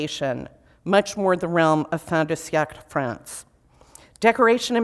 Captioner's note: foreign language